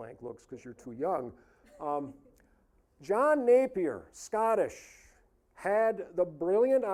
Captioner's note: audience chuckling